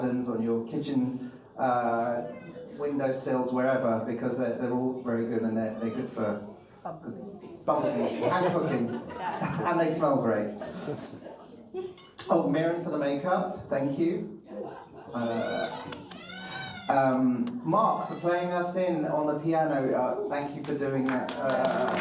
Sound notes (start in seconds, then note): 14.5 audience laughs